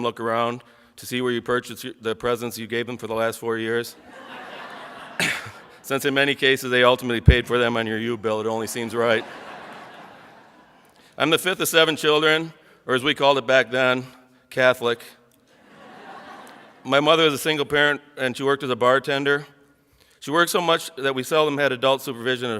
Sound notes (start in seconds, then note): 4.0 audience laughs; 8.7 audience laughs